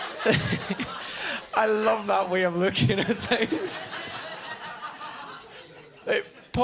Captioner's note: laughs